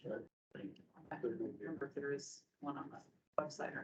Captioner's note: indistinct chatter